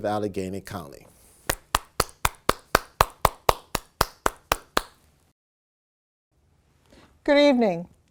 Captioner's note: applause